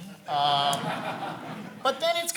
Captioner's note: laughs